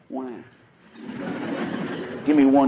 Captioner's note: laughter